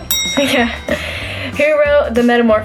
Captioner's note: bell ring